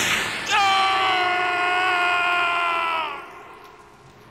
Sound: screaming

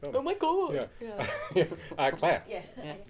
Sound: laughing

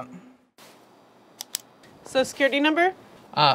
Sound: pen clicks

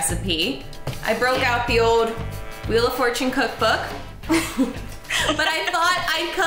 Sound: chuckling

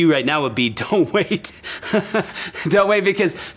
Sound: laughs

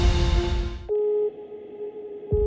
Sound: warning Klaxons blare

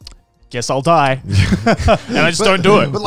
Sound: all laughing

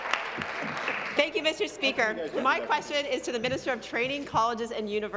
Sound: applause; cheers

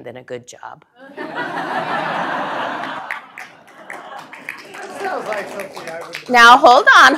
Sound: laugh; applause

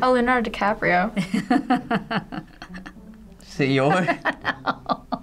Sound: chuckling

